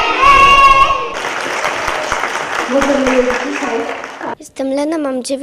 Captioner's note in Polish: oklaski